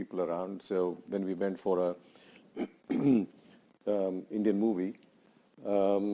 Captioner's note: clearing throat